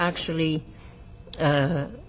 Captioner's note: wiping nose